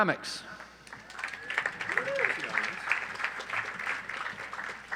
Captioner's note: audience applauds